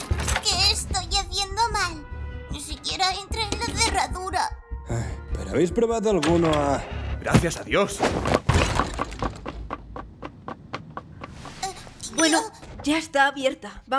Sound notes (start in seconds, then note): 4.7 scoffs